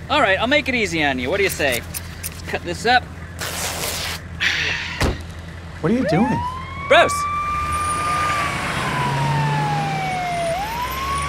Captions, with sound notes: All right, I'll make it easy on you. What do you say? Cut this up. (fabric ripping) - What are you doing? - Bros. (siren wailing)